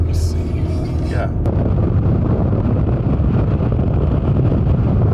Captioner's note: wind blowing